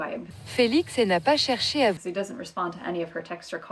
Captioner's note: computerized voice in French